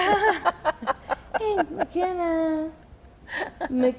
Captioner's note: laughing